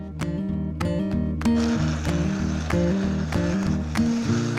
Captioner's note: blender whirs